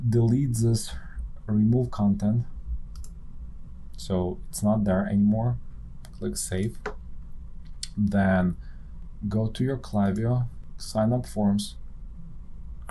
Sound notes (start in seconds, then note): 0.0 sighs; 2.8 clicks